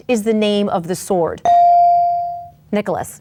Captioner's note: bell dings